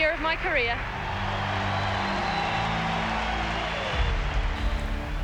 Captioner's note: crowd cheering